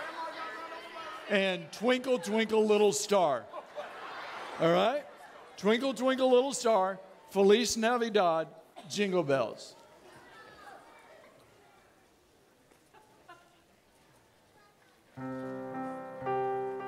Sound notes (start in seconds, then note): 13.6 audience clapping